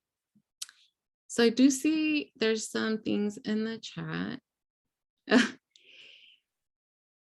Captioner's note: chuckles